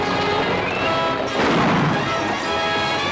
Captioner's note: gunshot